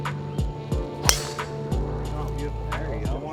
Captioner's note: jazz music; golf club whacking